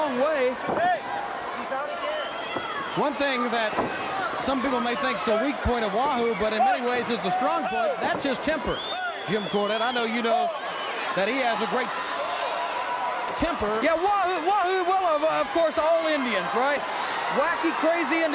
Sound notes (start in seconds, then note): 1.5 crowd chatter